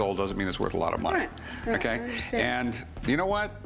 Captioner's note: none